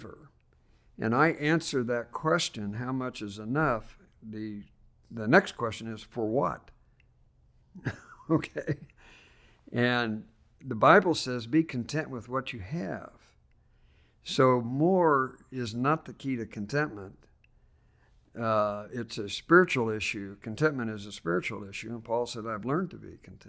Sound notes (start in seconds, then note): 7.8 laughs